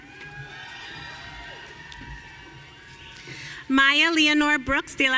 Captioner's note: audience cheering